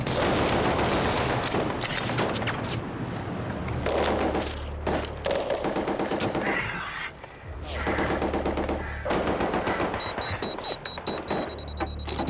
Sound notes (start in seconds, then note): 5.9 guns banging; 5.9 heavy breathing; 10.0 timer beeping